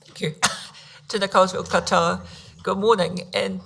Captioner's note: speaking foreign language